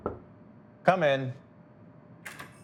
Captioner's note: door knocking